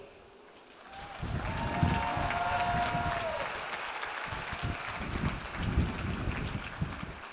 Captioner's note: audience applauds; audience cheers